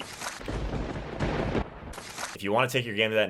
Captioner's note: thunder crackles